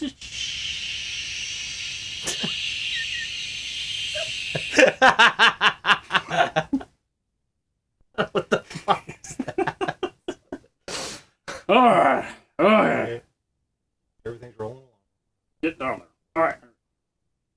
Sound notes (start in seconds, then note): 4.4 laughing; 8.2 laughing